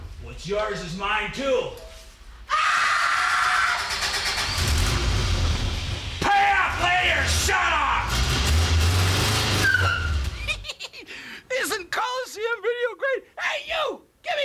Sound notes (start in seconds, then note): 2.5 homeowner screams; 3.2 car starts; 10.2 giggles